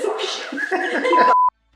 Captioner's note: laughter